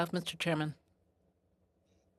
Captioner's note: speaking French